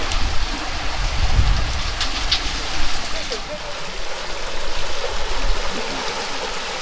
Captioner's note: water splashing